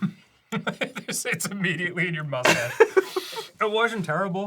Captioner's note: giggles; laughs